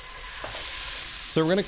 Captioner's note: skillet sizzles